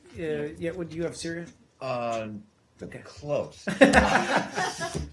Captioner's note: laughter